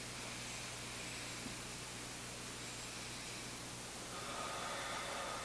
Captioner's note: inhaling deeply